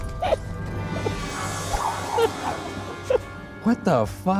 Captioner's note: letter whooshing; giggling